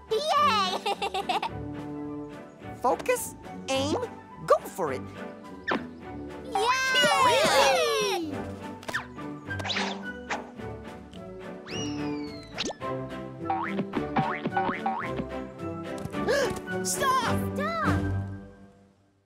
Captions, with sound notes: - Yay. (laughs) - Focus, aim, go for it. (A4 cheers) (balls whistling) (balls thudding) - Stop - stop